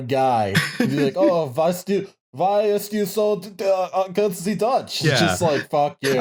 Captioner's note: laughs; horrible Dutch voice